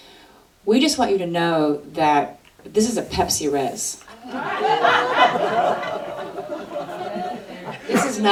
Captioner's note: audience laughter